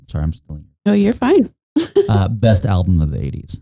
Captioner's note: laughing